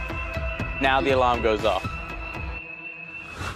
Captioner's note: alarm blaring